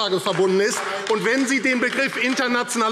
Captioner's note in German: Beifall AfD